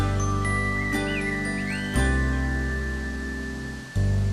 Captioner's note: birds singing